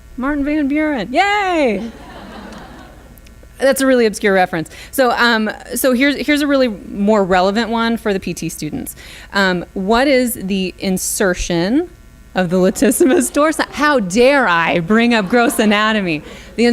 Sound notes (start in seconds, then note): 1.8 audience laughs